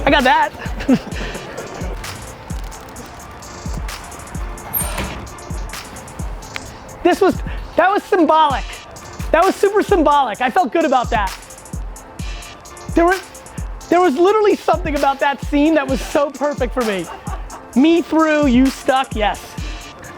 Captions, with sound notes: I got that! (laughs) That was symbolic! That was super symbolic I felt good about that. There was literally something about that scene that was so perfect for me. Me through you stuck, yes.